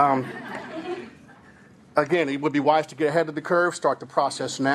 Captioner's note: laughing